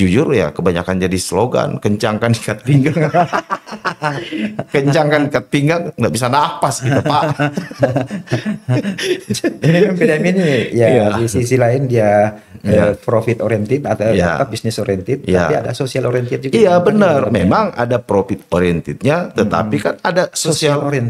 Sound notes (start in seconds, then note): 9.9 laughs